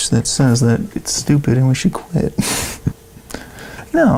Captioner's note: laughing